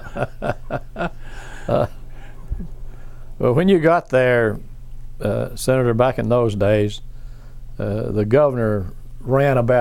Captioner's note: laughs